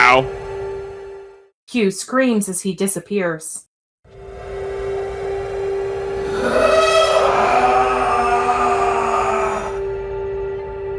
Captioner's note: screams